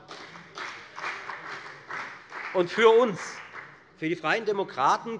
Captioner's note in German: Beifall bei der FDP